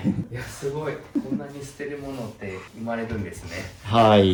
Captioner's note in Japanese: 咳払い; 鼻息